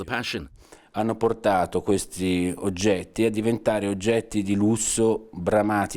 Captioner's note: speaking foreign language